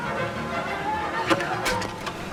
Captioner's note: clattering